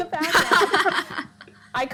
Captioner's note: laughs